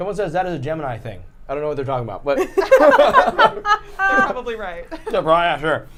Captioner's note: laughter